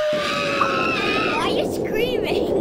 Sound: daddy screams; wind whoosing

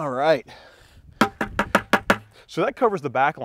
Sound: loud tapping

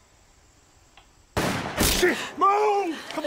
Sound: gunshot

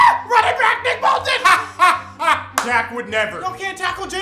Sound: laughs

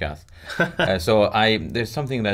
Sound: laughs

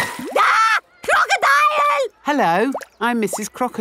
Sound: screams

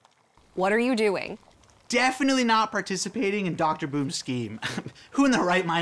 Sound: chuckles awkwardly

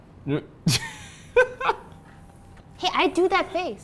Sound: laughs

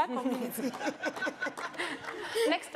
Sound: everyone laughs

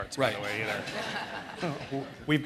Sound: audience laughing

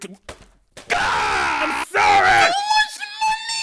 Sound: loud thud; man shouting

